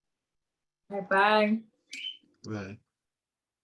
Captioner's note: bird chirping